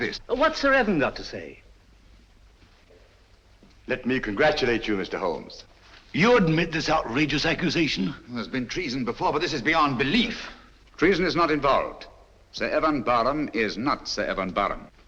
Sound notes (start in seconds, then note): none